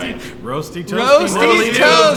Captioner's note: laughing